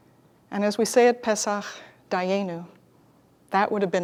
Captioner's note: Hebrew